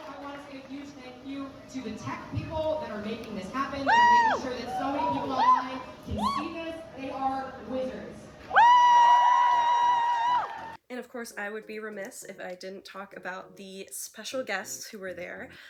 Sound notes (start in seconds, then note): 3.8 woos; 8.4 crowd cheers and claps